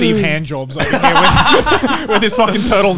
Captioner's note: laughs